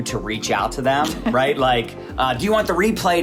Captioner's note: laughing